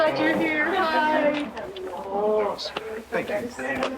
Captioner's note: overlapping chatter